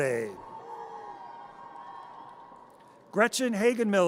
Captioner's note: audience cheers